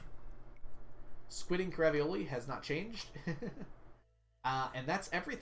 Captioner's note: laughs